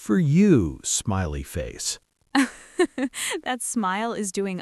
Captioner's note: laughs